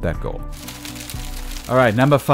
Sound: hail falling

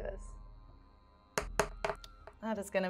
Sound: dice thudding

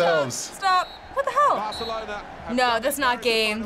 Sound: ref blowing whistle

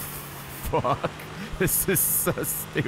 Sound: laughs

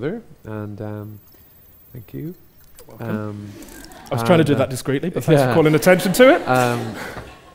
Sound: laughs

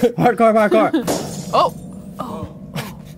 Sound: glass breaks

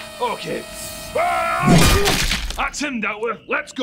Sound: smash

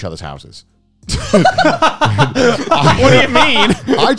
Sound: laughing

